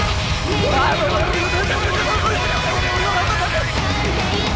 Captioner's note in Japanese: 喜八と健吾の不明瞭な悲鳴